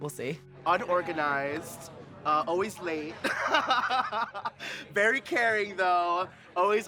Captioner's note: laughing